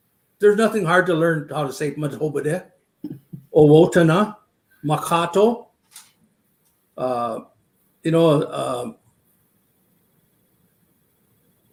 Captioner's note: speaking Dakota